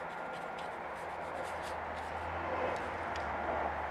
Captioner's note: passing cars